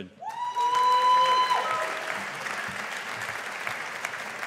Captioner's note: audience applauding